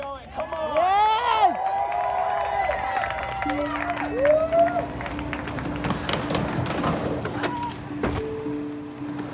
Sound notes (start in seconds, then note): 2.6 crowd cheering